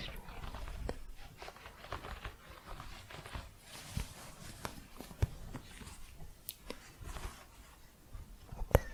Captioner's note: scratching